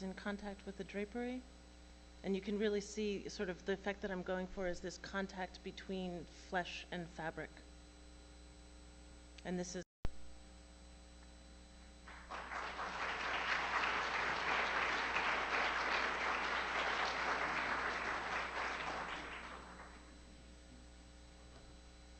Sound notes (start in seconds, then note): 17.2 applause